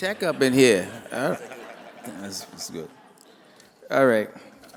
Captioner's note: laughter